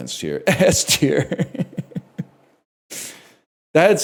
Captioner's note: laughs